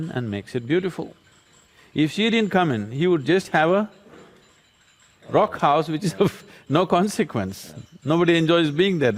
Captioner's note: laughs